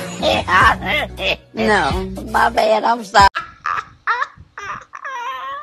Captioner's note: laughs